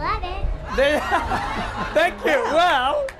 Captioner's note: laughter